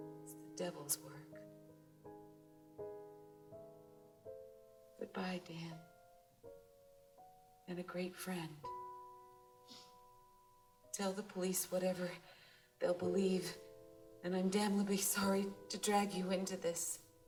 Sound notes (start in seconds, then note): none